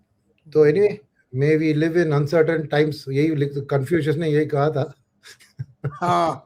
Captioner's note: laughs